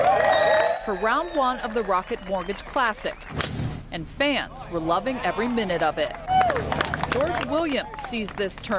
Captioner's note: applause